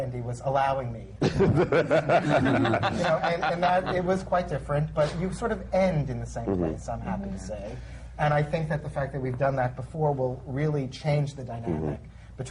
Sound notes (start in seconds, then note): 1.2 laughter